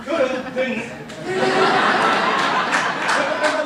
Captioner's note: laughter